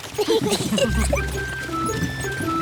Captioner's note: all giggle